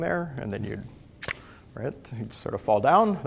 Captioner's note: clicks tongue